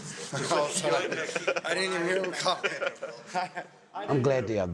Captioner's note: laughing